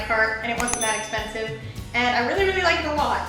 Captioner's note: bell dings